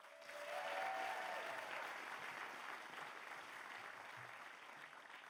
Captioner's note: audience cheers and applauds